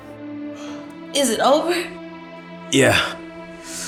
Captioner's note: crying